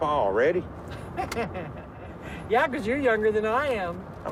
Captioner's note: laughs